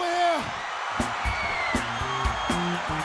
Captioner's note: crowd cheering